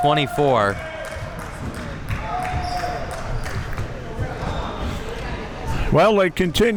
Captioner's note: spectators cheering and applauding